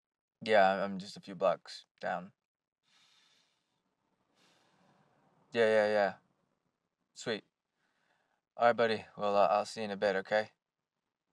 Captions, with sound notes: Yeah, i-I'm just a few blocks down. [inhales] [exhales] Yeah, yeah, yeah. Sweet. Alright buddy, well I'll see ya in a bit okay?